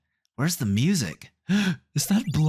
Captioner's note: gasp